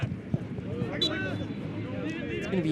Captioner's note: whistle blows